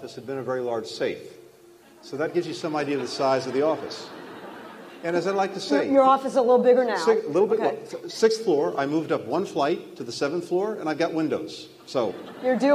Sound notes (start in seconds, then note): 4.4 laughter; 11.9 laughter